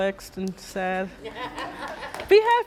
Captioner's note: laughing